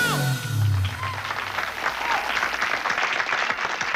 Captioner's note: applause